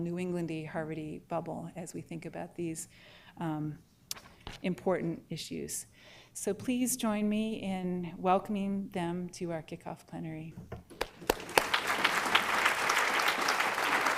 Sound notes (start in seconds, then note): 10.9 applause